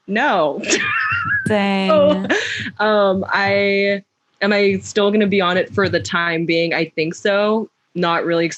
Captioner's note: laughs